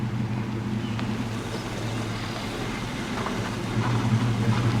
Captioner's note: engines purring continues